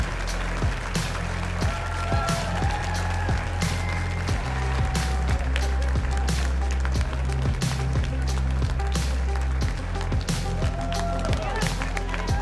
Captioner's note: applause